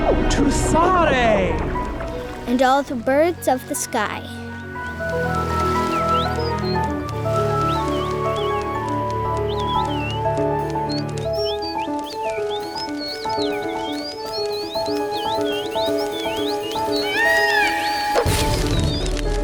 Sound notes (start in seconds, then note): 0.2 voice speaking gibberish; 4.2 piano music; 6.1 birds tweeting; 17.0 large bird's call; 18.2 large boom